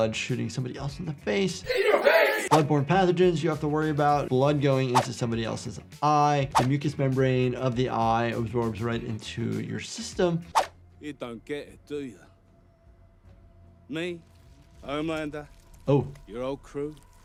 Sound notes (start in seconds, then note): 10.2 screen swooshing